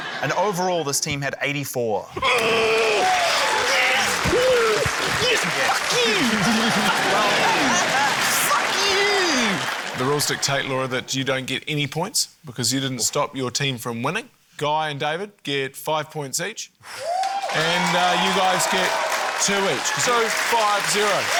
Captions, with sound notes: and overall this team had 84. - (GRUNTS) Yes! Yes! (CHEERING, APPLAUSE) Fuck you! Fuck you! Fuck you! (LAUGHTER) - The rules dictate, Laura, that you don't get any points, because you didn't stop your team from winning. Guy and David get five points each. - (EXHALES) (CHEERING, APPLAUSE) - And you guys get two each ― two, five, zero.